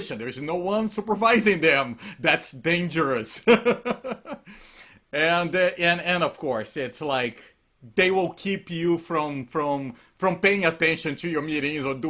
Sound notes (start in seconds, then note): 3.5 laughs